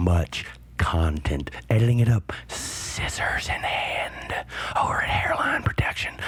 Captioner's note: whispering